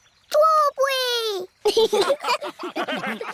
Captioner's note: laughter